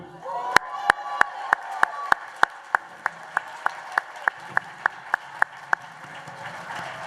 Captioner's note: applause